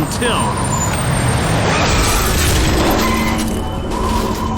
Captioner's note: tires screeching